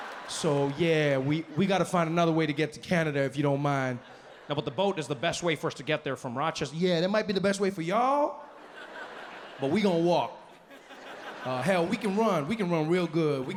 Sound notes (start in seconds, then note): 8.3 audience laughs